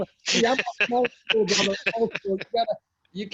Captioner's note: laughs